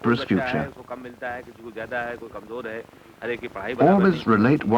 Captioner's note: non-English speech